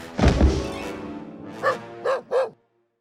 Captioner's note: barking